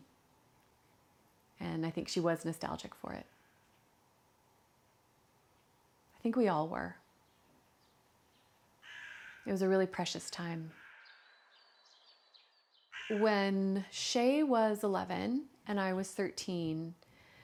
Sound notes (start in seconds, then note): 8.8 cawing; 10.2 birdsong